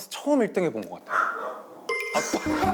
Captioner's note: barks